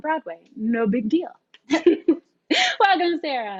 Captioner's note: laughs